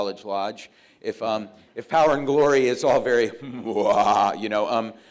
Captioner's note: sinister laugh